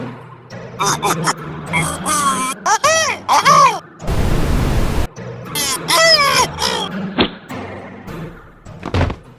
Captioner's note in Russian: глубокое шипение от которого все удивлены